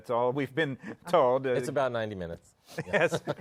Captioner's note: chuckling